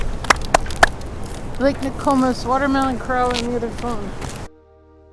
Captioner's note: clap, clap, clap; relaxing music